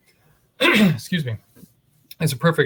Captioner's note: throat clearing